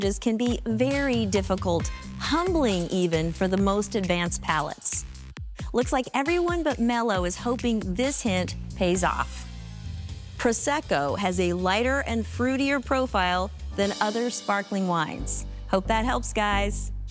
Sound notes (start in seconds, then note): none